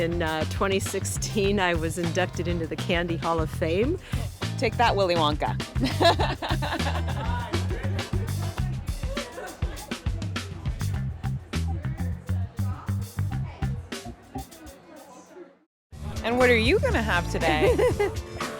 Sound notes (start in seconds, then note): 5.8 laughter